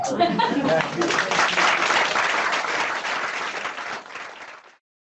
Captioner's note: audience clapping